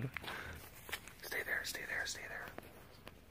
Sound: whispering

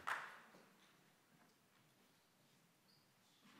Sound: applause

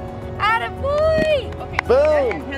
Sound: clapping

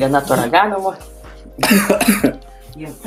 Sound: coughs in Lithuanian

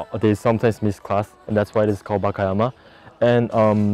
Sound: speaking foreign language

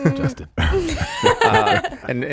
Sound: everyone chuckling

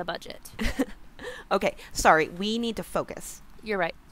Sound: laughs

